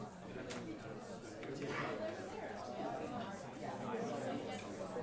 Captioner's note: students chattering